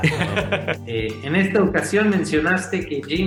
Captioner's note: laughter; speaking in Spanish